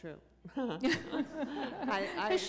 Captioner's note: chuckle